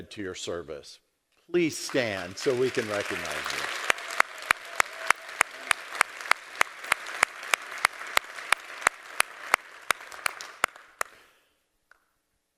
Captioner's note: applause